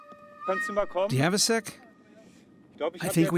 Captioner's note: in German